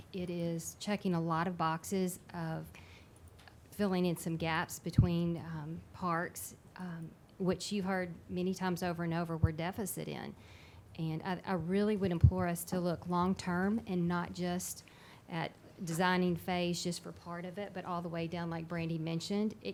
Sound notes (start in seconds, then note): none